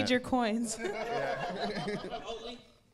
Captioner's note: audience laughing